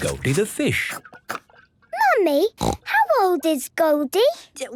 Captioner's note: snorting